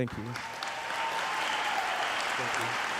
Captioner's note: applauding